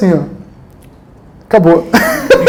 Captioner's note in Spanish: Risas